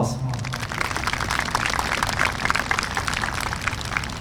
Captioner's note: applause